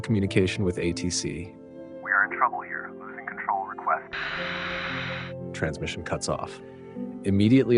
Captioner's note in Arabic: ينقطع الإرسال